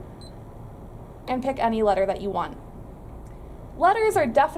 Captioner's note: beeping noise